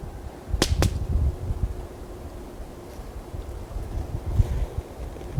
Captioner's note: firewood crackling